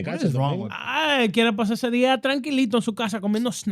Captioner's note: speaking In Foreign Language